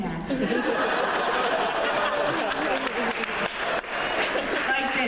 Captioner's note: laughter